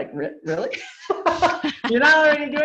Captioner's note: laugh